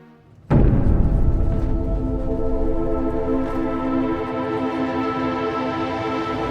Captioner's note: forlorn music; train rattling